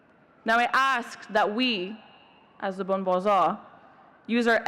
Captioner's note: speaks in Farsi